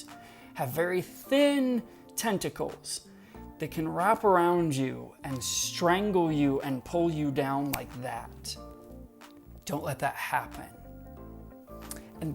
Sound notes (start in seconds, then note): 7.6 snaps